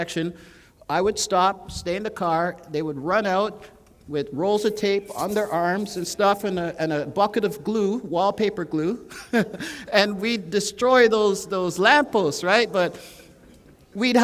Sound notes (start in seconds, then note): 9.0 chuckle